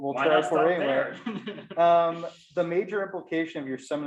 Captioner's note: laughs